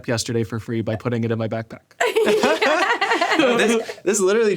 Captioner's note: all laughing